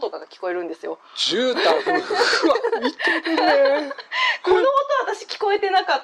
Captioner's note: laughs